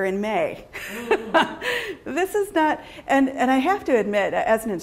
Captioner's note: laughs